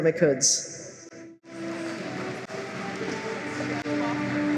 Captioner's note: applause